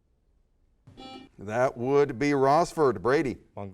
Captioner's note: buzzer sounds